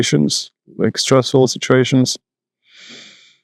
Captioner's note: inhale, exhale